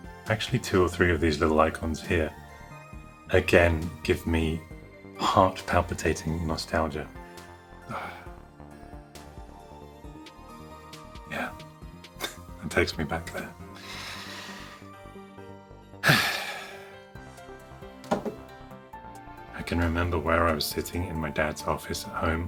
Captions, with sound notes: Actually two or three of these little icons here again give me heart palpitating nostalgia. [Sighs] Yeah that takes me back there. [Deep Inhale and Sigh] I can remember where I was sitting in my dad's office at home